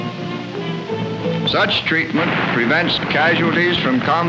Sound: explosions

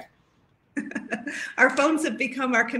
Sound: laughs

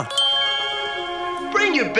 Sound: twinkling sounds

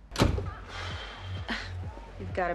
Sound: sighs

